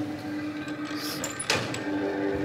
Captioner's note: quietly